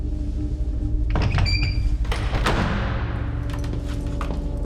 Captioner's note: door creaking